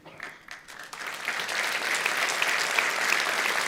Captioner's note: audience applauds